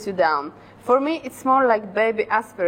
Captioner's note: none